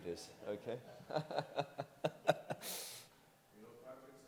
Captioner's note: laughing